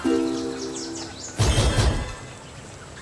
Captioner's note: birds; notification; wind noises; birds